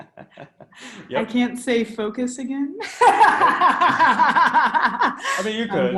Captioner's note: laughs